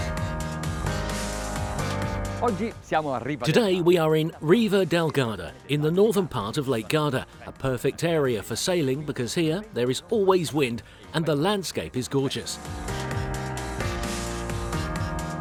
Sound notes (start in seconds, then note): 2.2 speaking foreign language